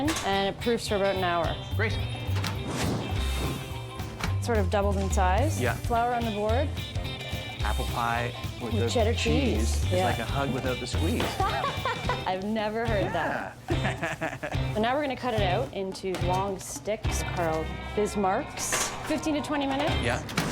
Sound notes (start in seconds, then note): 11.3 laughs